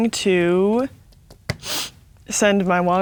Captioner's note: sniffs